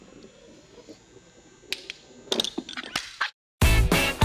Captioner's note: tapping sound